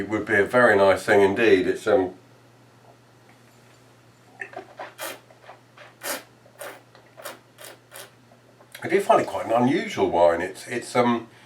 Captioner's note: slurping